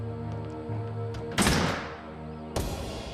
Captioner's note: door slams